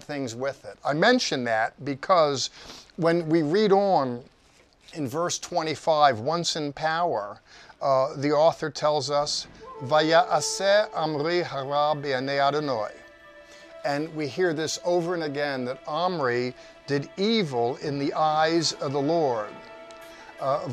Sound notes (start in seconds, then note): 10.1 speaking in a foreign language